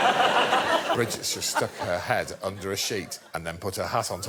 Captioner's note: laughter